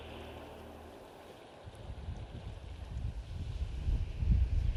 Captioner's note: wind whistling